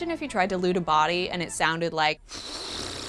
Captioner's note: blows raspberry